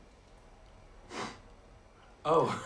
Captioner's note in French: renifle